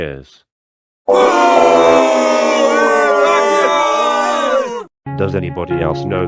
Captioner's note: booing